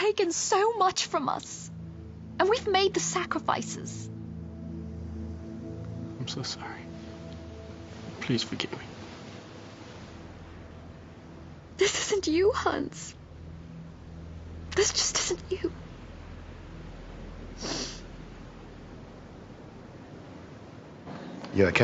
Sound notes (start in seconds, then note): 17.6 sniffles